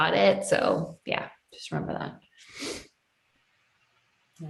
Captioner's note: sniffs